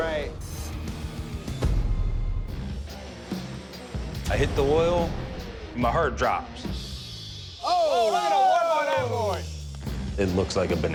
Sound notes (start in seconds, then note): 0.1 intense rock music playing; 7.6 hosts exclaiming